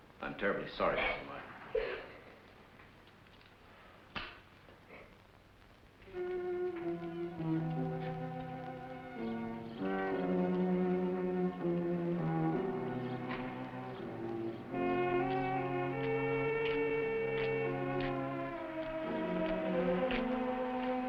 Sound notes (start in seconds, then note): 1.7 sobbing